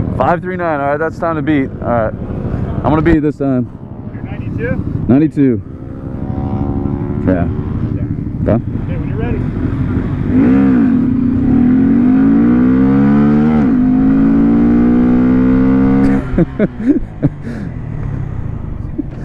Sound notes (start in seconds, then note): 9.0 motorcycle engine revs; 12.1 laughing